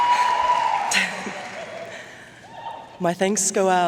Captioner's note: chuckling